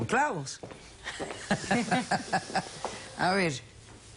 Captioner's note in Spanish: Risas